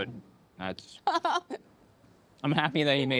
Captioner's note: laughs